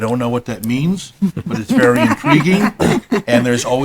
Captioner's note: laughing